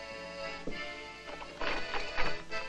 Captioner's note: lock turning